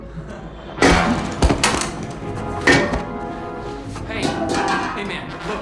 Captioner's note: crack on head